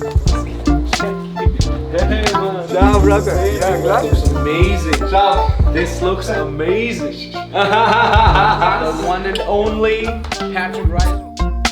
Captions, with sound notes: (speaking in foreign language) this looks amazing, this looks amazing. (laughs) The one and only Patrick Reiser.